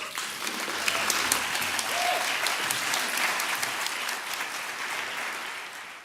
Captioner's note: applause